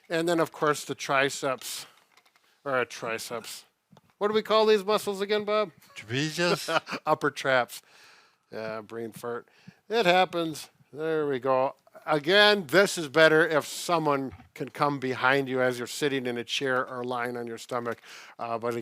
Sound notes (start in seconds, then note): 5.8 chuckles